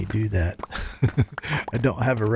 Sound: laughs

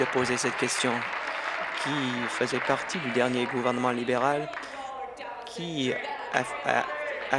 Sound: applause

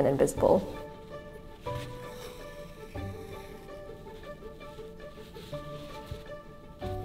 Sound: classical music; fabric rustling

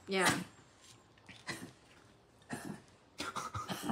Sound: coughing

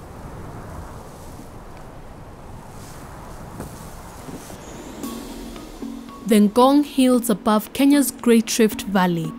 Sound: wind rustles in dry grasses

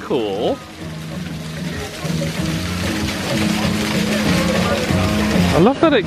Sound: upbeat music continues; water splashing continues

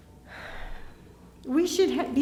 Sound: sighs

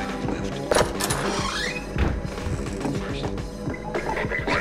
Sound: door squeaking; Combine radio chatter

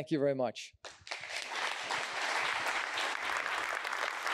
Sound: applause

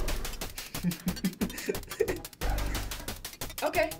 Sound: laughs

